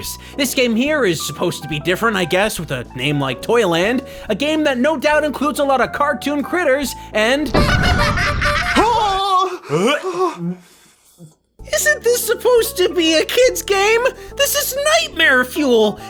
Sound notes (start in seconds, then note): 7.5 clown horns, laughter; 10.3 heaves